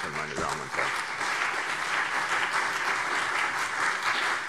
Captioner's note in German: Beifall CDU und BÜNDNIS 90/DIE GRÜNEN